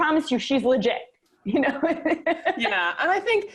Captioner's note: laughs